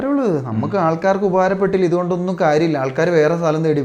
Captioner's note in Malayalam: തൊണ്ട ശരിയാക്കുന്നു